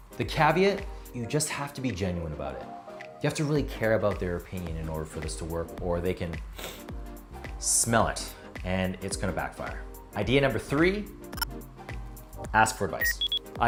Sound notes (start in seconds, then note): 6.5 inhales sharply; 11.2 electronics chirping; 13.0 electronics beeping